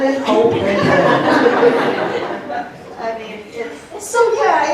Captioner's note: laughter